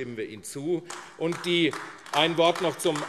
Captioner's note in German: Beifall AfD